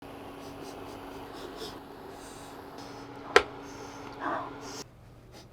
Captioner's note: sniffing sounds